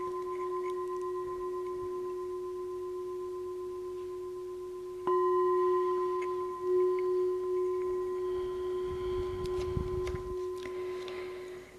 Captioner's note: bell